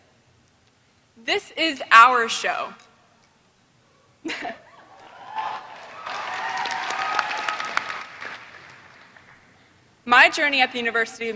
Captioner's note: applause